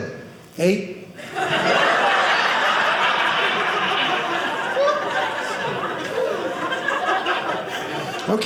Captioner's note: audience laughing